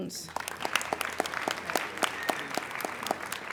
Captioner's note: applauding